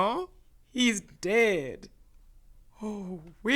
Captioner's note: gasps